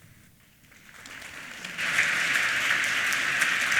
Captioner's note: applause